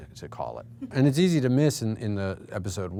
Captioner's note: chuckling